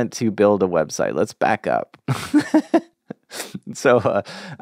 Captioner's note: laughs